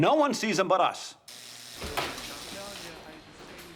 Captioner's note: door buzzes